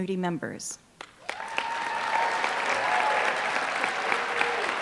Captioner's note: applause